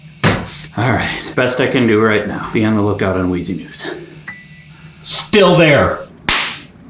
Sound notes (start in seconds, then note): 4.5 bell pings; 6.2 belly slap